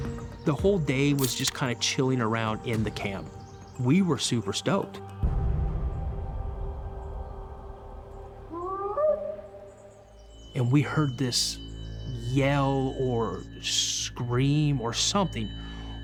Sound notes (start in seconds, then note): 7.2 howling